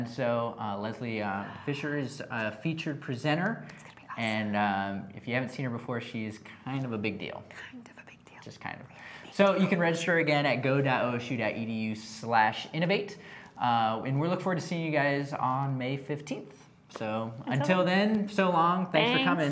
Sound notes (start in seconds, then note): 7.8 whisper